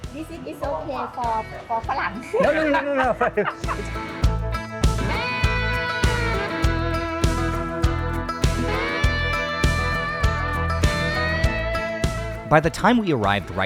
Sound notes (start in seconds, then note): 5.2 laughing